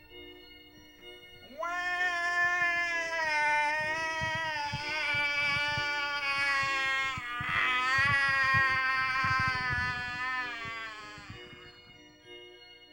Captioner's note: prolonged cry